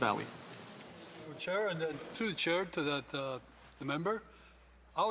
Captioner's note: speaking French